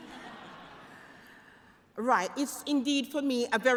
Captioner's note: laughter